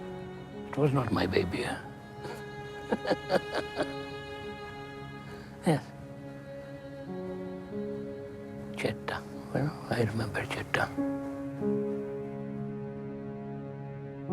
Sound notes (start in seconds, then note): 2.8 laughs; 5.6 somber music; 11.7 somber music